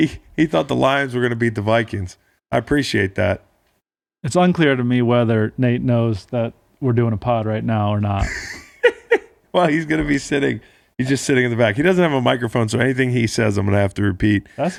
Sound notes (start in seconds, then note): 8.1 laughing